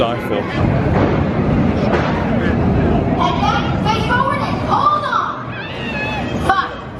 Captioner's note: coaster rumbling